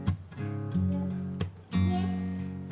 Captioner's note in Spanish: child speaking